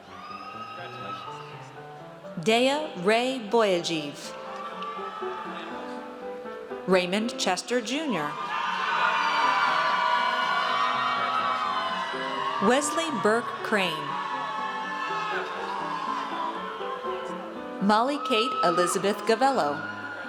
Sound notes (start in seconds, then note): 0.0 audience cheers; 4.3 audience cheers; 8.4 audience cheers; 14.4 audience cheers; 20.1 audience cheers